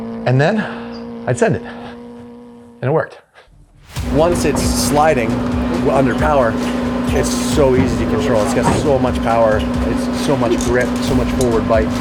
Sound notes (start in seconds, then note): 4.0 car engine roaring